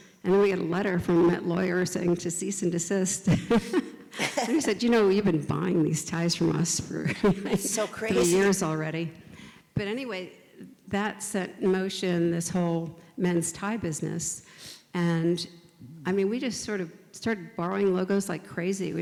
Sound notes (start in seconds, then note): 3.3 laugh; 7.4 laughs